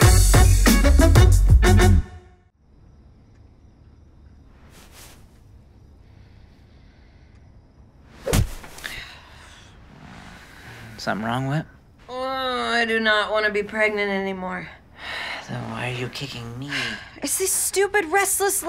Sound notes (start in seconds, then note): 8.2 whack; 16.6 sighs